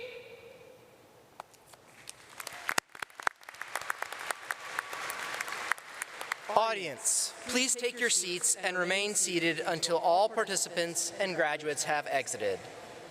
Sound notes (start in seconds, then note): 1.6 audience clapping